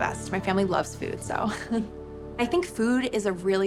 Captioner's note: laughs